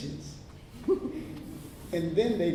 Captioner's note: laughter